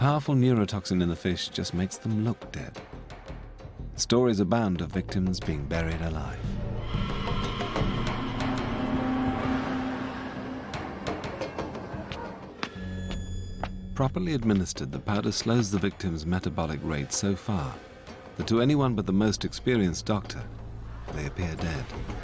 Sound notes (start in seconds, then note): 12.4 fast-paced footsteps